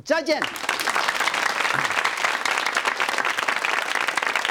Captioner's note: audience clapping